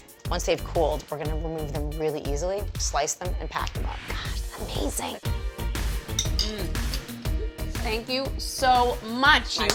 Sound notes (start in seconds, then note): 5.5 upbeat music; 6.6 moans